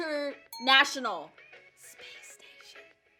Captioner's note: bell dinging